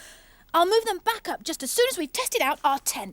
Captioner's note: none